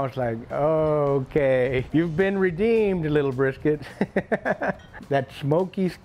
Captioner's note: laughs